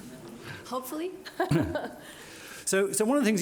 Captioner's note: laughs; laughs